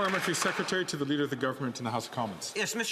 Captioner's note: some Applause